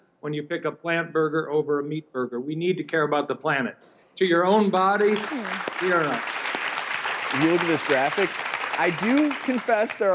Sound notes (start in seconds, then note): 6.4 applause